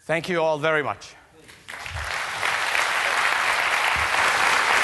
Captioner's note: applause